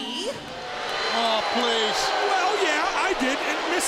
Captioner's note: crowd boos